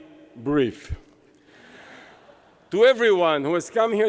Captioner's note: laughter